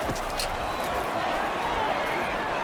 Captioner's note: crowd Noises